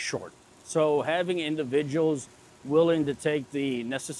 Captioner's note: machinery humming